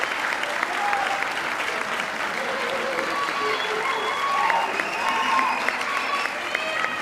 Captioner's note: audience cheering; audience clapping